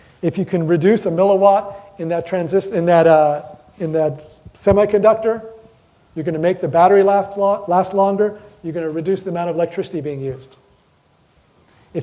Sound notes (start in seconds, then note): none